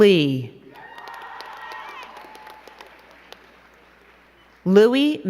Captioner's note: crowd clapping and cheering